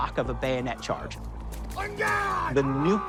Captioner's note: screams